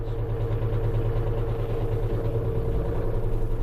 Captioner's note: engine whirs